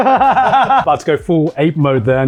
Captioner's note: laughs